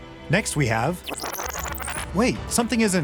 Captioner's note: fast forward sound